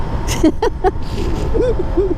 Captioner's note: laughing